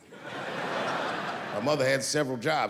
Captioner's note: laughing